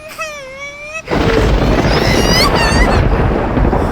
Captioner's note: squeals